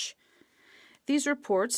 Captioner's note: speaking French